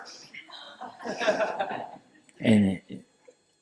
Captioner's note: laughter